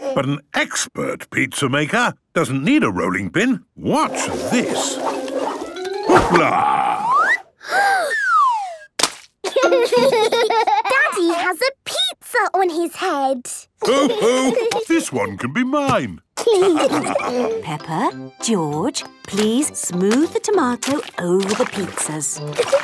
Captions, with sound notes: - But an expert pizza maker doesn't need a rolling pin! Watch this! Hoopla!!! - (Peppa gasps) - (splat) - Daddy has a pizza on his head. - Ho, ho! This one can be mine. - Peppa, George, please smooth the tomato over the pizzas.